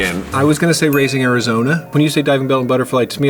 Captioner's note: bell dings